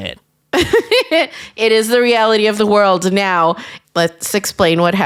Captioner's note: laughs